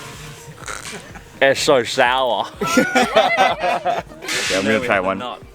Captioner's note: laughs